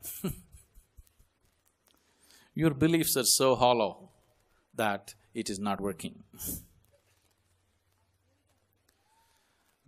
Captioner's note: laughs